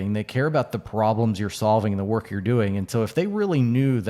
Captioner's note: none